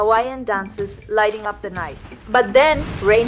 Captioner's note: thunder & Lightning